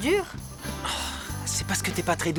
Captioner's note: sighs